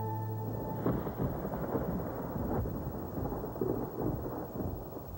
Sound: thunder

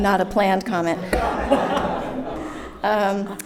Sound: audience laughing

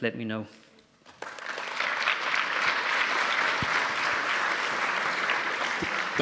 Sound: applause

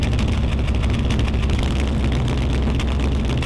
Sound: loud Engine Ticking Over

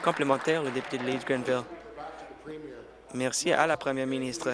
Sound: applause

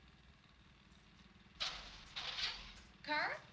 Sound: rustling

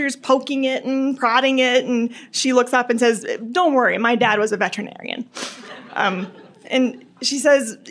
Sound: laughter

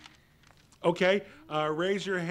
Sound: sighing

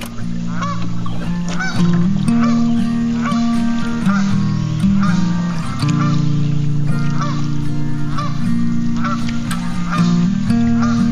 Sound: goose - Honking

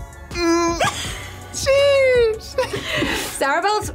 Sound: both laugh

